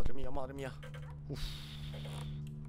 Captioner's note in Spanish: Suspiro